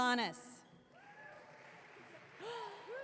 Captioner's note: audience clapping